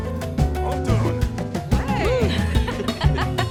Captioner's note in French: rires